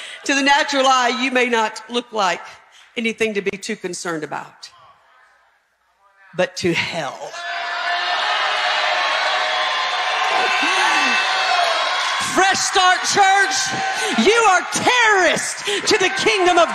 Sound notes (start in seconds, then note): 8.9 congregation chatter